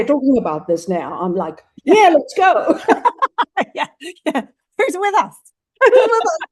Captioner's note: laughs